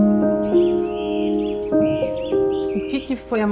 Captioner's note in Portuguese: Bem-te-vi canta